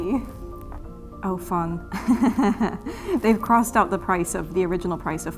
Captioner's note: laughs